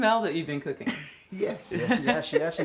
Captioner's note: laughs